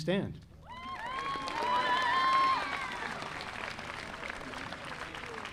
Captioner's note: audience applauding